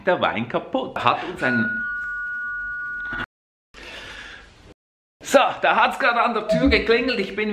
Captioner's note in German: Türklingeln